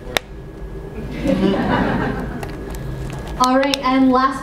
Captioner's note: laughter